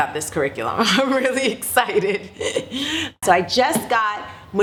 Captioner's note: laughing